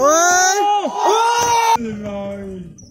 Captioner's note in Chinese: 歡呼